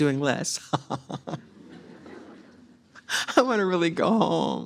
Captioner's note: all laugh